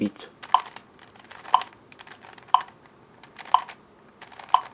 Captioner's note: metronome beeping